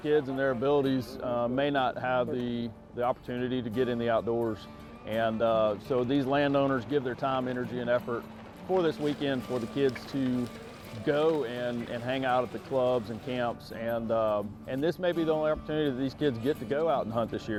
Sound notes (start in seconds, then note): 5.8 tire crunches dirt; 8.7 foliage rustles